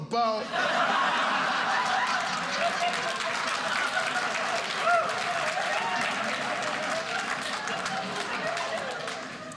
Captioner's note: audience cheering